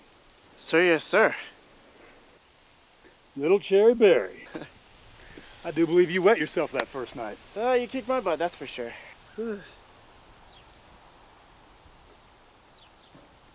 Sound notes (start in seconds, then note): 4.3 chuckles; 8.8 birds chirping